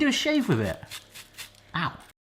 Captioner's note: foil scraping on skin